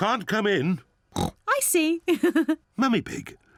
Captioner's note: oinks; laughs